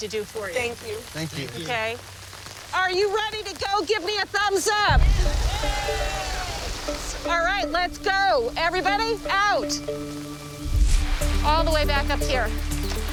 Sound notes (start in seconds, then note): 5.0 all cheering